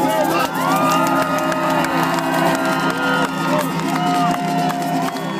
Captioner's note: cheering and applause